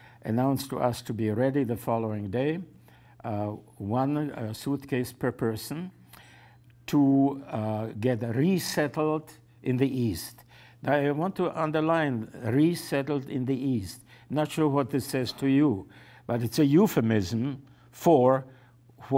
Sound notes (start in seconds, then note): none